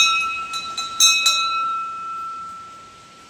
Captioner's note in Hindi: घंटी की आवाज़